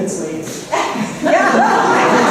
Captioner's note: laughter